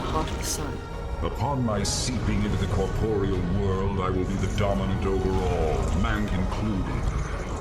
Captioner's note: sexy eldritch male voice